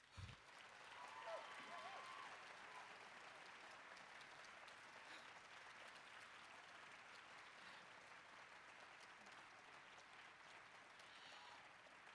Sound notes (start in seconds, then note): 0.0 applause